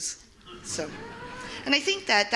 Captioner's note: audience laughing